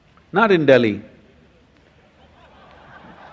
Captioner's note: laughter